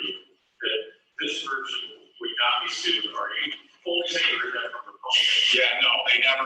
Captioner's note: away from the mic